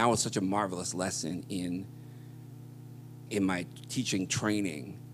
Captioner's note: none